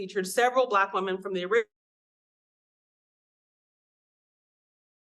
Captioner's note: audio cuts out